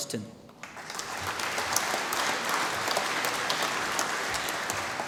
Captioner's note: applause